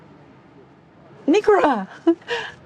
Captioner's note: chuckles